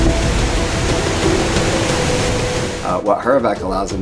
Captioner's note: thunderous sound of wind and water